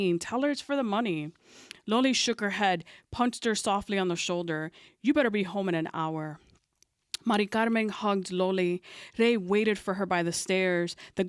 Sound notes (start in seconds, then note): none